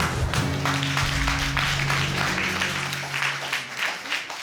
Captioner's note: applause